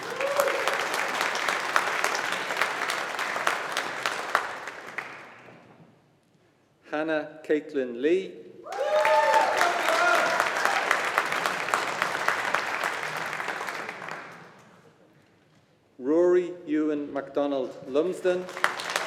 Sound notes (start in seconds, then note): 0.0 audience applauding; 8.7 audience applauding